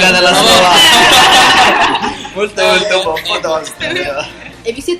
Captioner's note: laugh